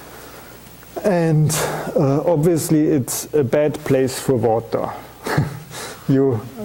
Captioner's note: chuckles